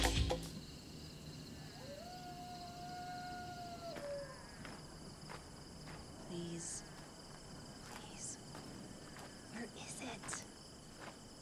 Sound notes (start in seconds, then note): 0.1 crickets chirping; 1.5 coyote howling in distance